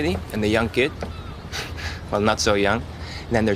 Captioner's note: chuckles